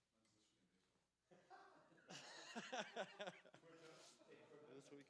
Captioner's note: laughter